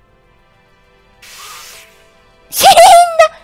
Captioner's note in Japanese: 騎士が回転ノコギリに斬られる音